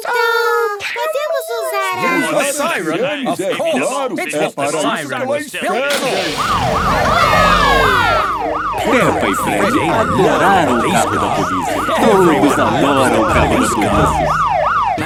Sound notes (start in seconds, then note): 6.8 siren